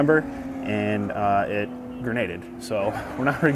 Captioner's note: car engine roaring